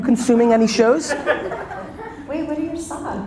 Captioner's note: audience laughter